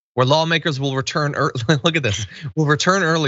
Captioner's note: laugh